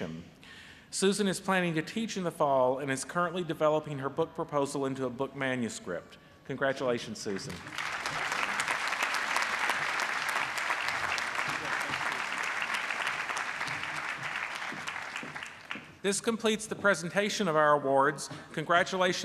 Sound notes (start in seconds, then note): 7.2 applause